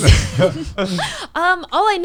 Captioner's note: laughs